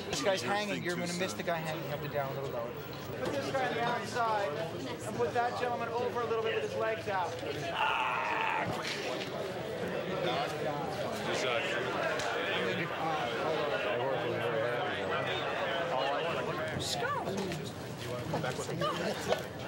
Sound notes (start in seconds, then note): 7.6 grunts, mimics gunfire